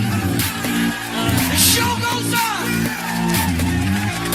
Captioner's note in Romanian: Aplauze